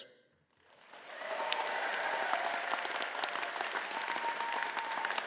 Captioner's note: audience applauding